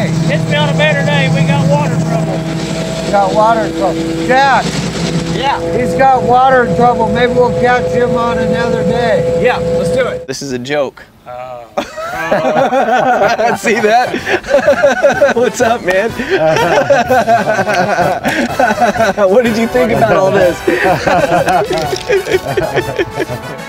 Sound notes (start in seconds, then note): 12.3 men laughing; 17.1 laughing